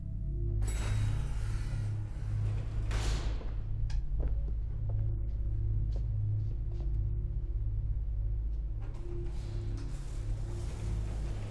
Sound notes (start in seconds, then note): 0.9 elevator dings; 3.1 elevator door rattles; 7.8 gentle foreboding music